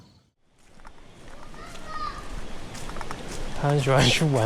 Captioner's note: the kid is still yelling